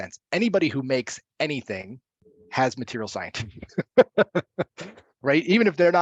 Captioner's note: laughs